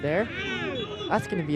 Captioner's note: whistle blows